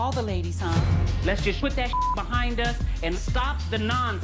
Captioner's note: beep